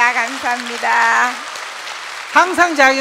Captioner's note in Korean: 청중 환호와 박수